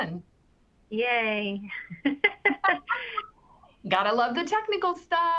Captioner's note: laughs